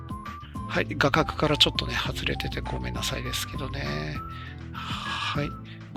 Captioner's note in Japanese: 息をのむ音